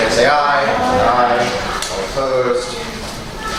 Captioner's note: A chorus of ayes